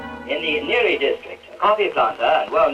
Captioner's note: radio